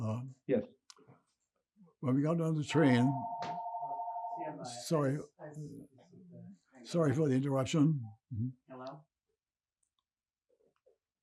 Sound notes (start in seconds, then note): 2.7 phone ringing